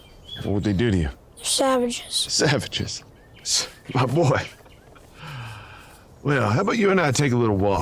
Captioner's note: sighs and gasps